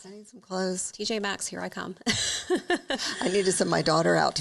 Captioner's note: chuckles